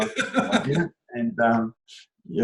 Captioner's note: laughs